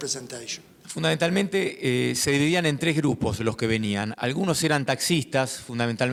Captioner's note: speaking in foreign language